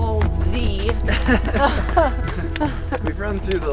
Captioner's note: laughter